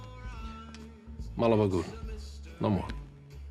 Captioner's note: Italian spoken audio